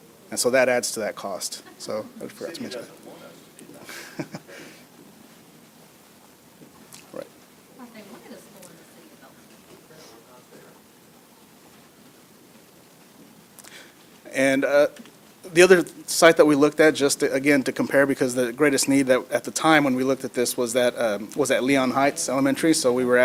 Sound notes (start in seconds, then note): 8.7 laughs